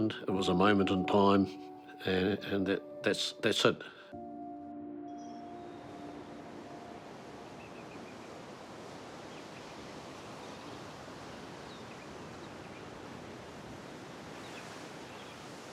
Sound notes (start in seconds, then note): 4.2 calm music; 5.8 waves crash; 7.0 birds chirp